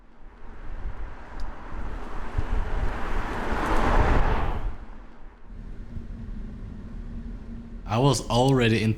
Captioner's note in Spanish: El motor de un BMW